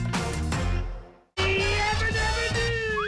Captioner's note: whining